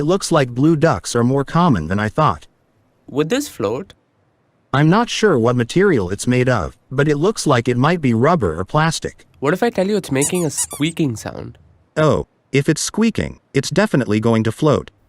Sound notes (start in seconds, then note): 10.0 toy squeaking